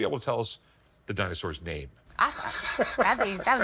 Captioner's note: laughs; chuckles